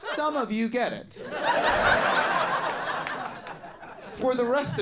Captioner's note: audience laughing